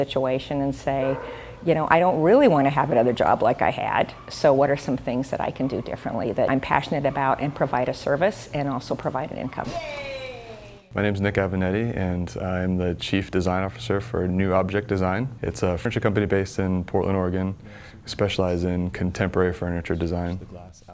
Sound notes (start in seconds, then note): 9.7 sound of the pool and woman cheering, “Yea!”